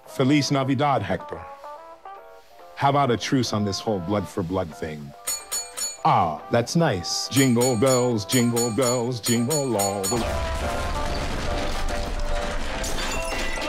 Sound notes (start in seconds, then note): 5.2 ding ding ding; 7.2 singing to bell dings